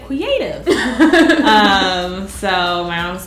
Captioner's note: laughs